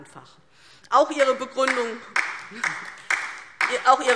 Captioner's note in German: Beifall DIE LINKE